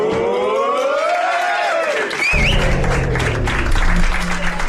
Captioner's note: applauds and whistles